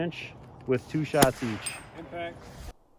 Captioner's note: rifle fires